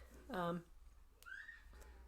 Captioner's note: child shriek